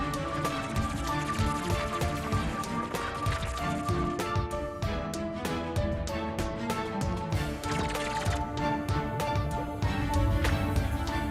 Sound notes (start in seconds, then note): 0.0 fluttering